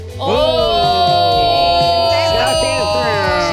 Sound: group cheers

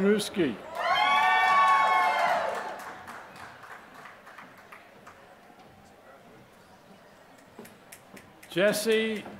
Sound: applause

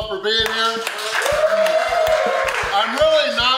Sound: crowd clapping and cheering

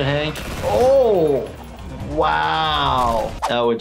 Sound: gun shooting

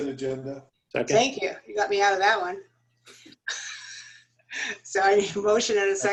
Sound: laughter

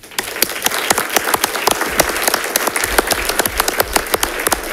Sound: congregation applauds

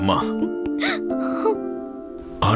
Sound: crying

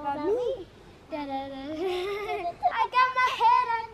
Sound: girls babble

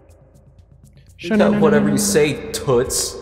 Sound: makes teleport sounds

